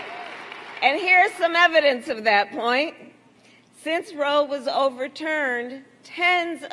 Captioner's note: applause